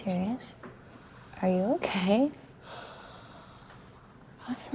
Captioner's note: Ashley sighs